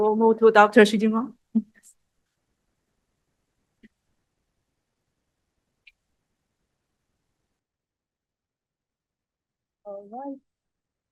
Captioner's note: pause